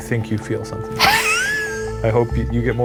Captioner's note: laughing